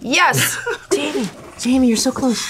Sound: laughs

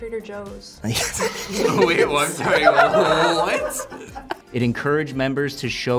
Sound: both laugh

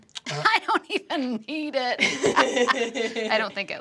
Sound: laughing

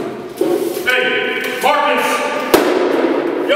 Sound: stomps dust pan

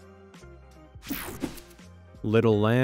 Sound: graphics whooshing

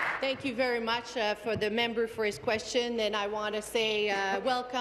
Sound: applause

